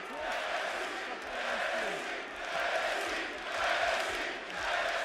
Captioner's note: audience cheering